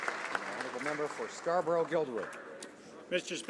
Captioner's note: some Applause